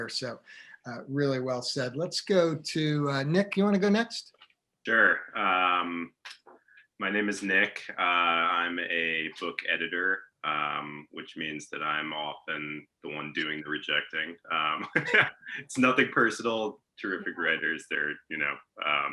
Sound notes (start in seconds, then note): 14.7 laughing